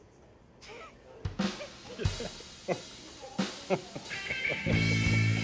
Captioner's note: people laughing